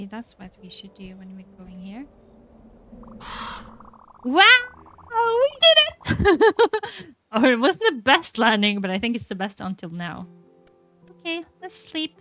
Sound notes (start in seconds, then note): 5.9 laughs